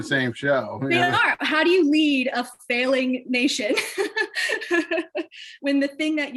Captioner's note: laughs